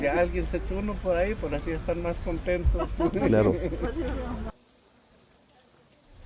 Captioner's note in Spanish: risas